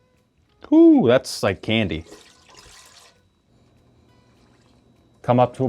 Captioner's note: wine pours